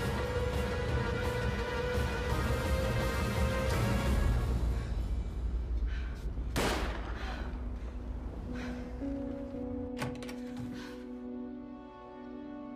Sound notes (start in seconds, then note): 6.5 gunshot echoing; 9.4 somber music